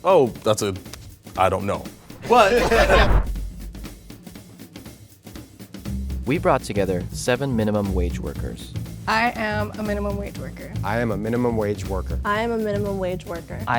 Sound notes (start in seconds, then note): 2.2 all laugh; 3.6 percussive jazz music